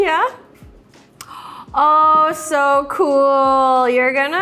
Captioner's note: Arden gasps